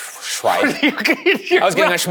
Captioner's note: laughs